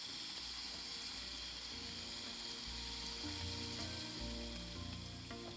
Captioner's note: water sounds